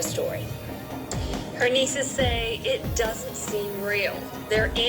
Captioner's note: on TV